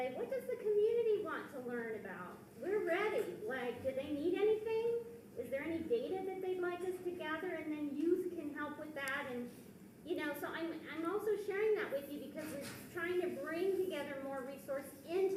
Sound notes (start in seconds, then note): none